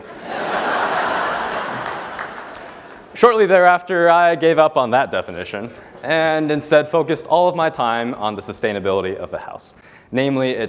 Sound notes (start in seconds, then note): 0.1 laugh; 1.0 applause